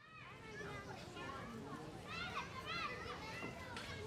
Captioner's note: children chattering